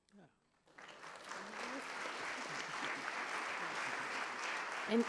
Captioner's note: applause